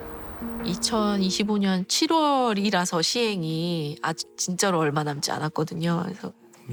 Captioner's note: speaking Korean